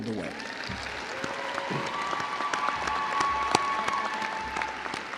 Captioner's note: crowd applauding